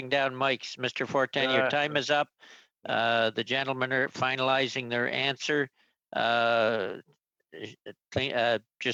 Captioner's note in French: voix de l'interprète